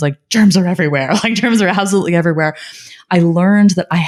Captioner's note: laughing